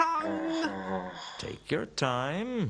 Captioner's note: pained sigh